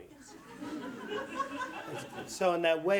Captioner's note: audience laughs